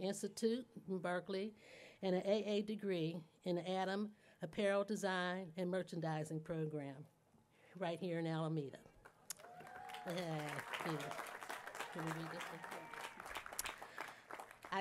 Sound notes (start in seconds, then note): 9.3 applause